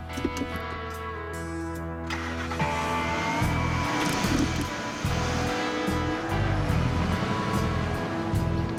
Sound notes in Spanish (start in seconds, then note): 2.0 Ruido del vehículo